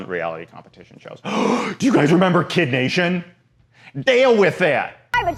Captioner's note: gasps